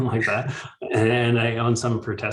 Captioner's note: both chuckles